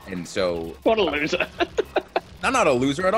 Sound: laugh

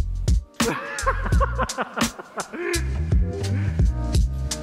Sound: laughing

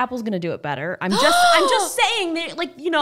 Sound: gasping

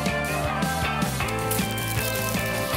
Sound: crashing

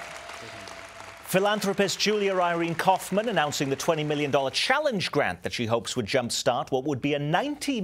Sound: applause

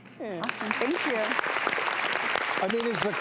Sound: audience applauding

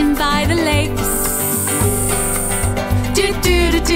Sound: snake sound

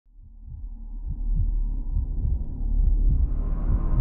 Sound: heart beating

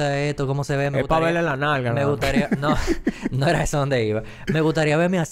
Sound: laughs

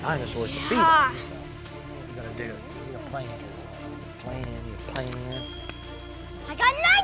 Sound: ding

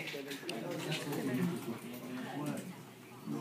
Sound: students talking

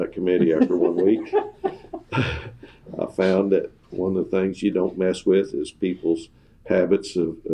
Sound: laughter

